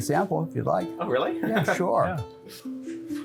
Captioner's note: laughs